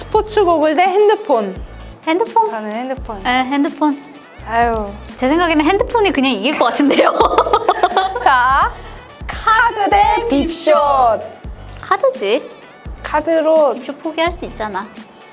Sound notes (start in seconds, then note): 6.6 laughter